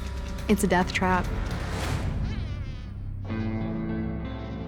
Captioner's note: flies buzzing